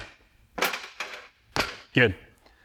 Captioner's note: impacts bench